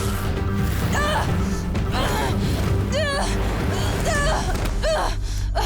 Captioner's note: grunting